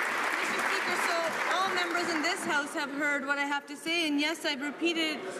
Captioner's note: applause